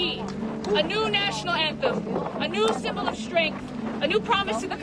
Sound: speaks foreign language

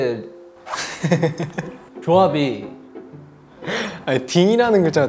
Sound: bursts out laughing

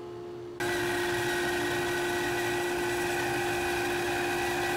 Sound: saw whirring

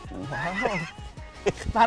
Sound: laughs

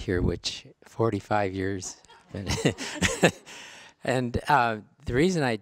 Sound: laughs

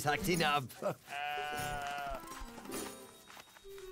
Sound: baaing

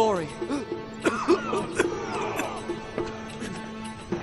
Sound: coughing

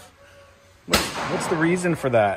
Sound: gun bangs

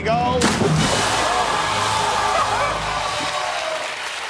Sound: splashing

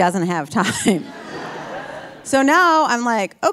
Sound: audience laughing; laughing

